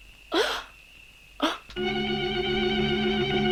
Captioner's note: Carol gasps; dramatic music